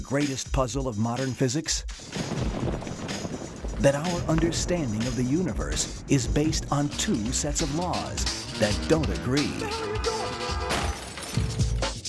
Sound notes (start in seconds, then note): 2.2 thunder crashing; 10.7 crash